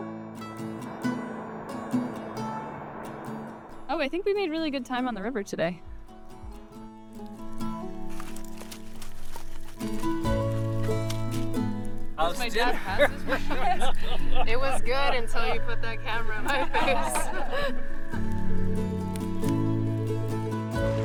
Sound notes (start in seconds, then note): 7.0 fire crackles; 8.0 firewood rustling; 12.1 indistinct chatter; 12.6 laughter; 16.4 chuckling; 18.0 fire crackles; 20.8 water churns